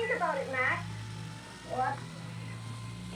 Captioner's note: buzzing